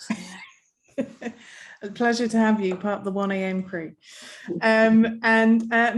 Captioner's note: chuckling